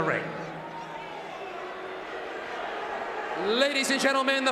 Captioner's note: audience cheering